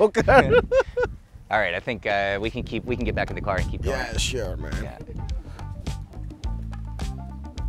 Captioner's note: laughs